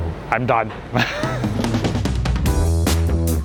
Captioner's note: laughs